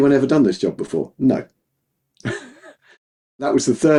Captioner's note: laughs